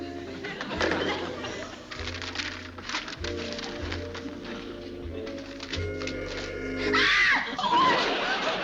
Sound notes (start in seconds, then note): 6.7 screams